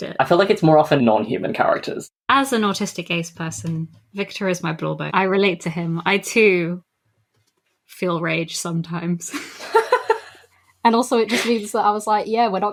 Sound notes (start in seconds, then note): 9.4 laughs